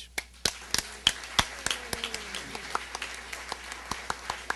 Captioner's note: applause